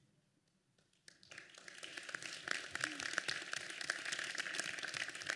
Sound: applause

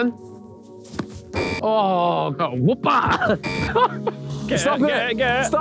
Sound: buzzer buzzing; chuckles

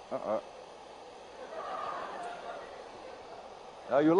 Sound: laughter

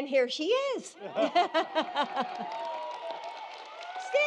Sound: laughs; applause

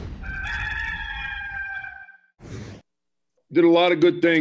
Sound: rooster crowing

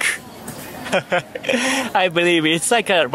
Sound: chuckles

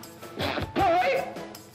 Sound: yells

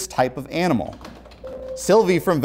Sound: beeping

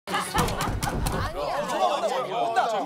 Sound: bang bang

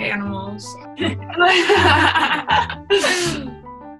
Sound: laughing

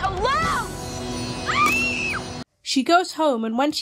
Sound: scream

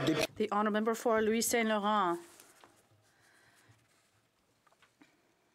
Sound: applause; speaking French

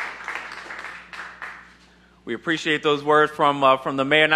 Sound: applause

